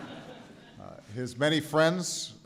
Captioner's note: laughter